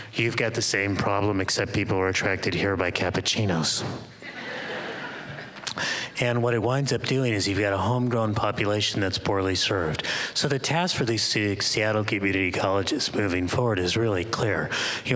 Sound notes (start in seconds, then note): 4.2 laughter